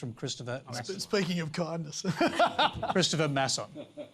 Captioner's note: laughs